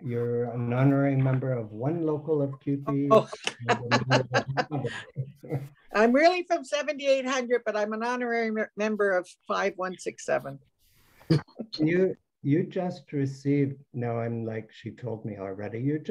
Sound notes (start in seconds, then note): 2.9 laughs